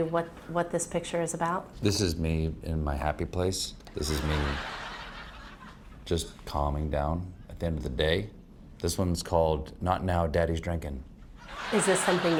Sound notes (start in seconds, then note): 4.0 laughter